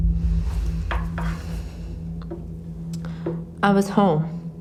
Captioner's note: Sofia sighs